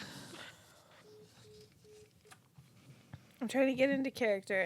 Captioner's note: phone line beeps